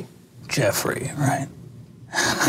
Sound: laughs

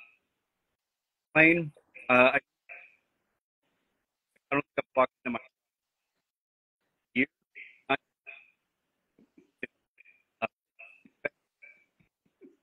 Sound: audio cuts out

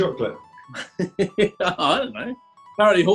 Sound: chuckling

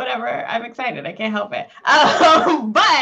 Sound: chuckling

